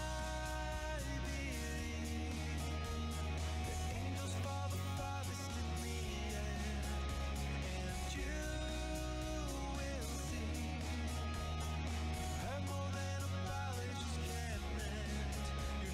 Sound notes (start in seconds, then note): none